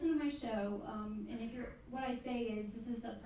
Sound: none

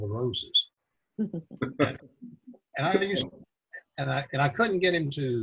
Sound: laughing

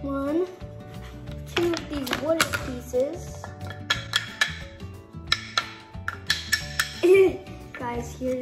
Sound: clangs pieces togethers and laughs

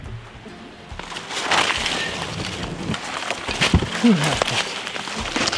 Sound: brush crunching

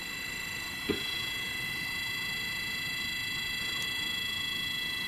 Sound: device beeps louder

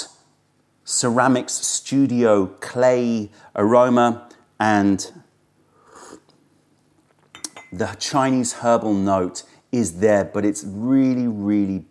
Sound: sips tea

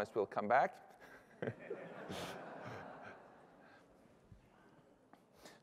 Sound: laughter

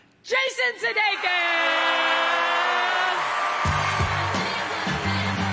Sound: applause

